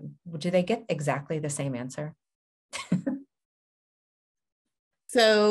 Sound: chuckles

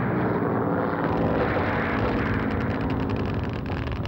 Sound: guns firing

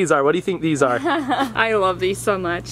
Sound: laughs

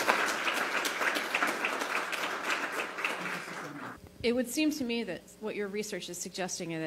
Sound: applause

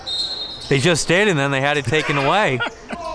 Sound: whistle blows

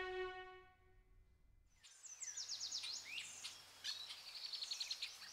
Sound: birds chirping

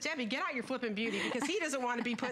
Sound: laughter

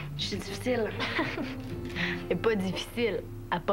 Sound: Rire

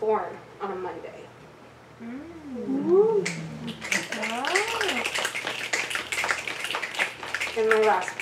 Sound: audience snaps

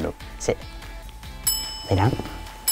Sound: bell dings

